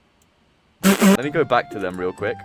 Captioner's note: laughs at plea